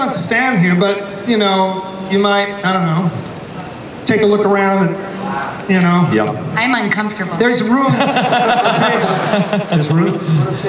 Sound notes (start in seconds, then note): 7.8 Chris laughs